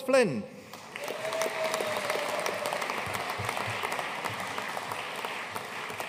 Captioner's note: audience cheering and applauding